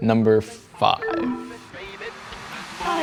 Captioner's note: low tone chimes; upbeat music